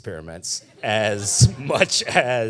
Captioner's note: audience laughing